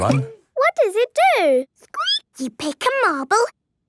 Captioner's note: squeaking